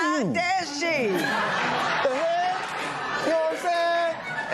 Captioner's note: laughter